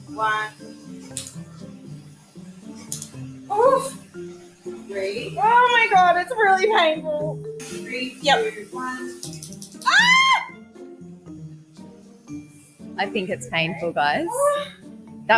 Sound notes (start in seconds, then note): 1.1 crackling sound; 9.8 crackling sound and screams